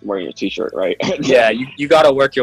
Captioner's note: laughs